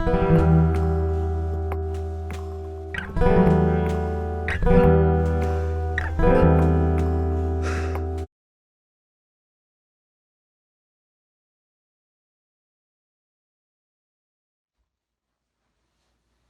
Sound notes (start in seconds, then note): 0.0 bleak acoustic guitar music; 7.6 sighs